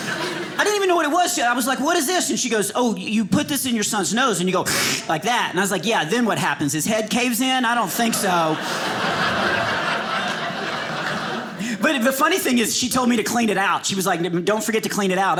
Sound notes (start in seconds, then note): 4.7 suctioning; 7.8 audience laughing